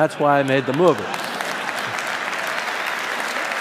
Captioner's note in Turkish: Alkışlar